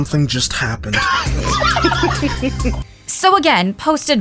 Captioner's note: laughter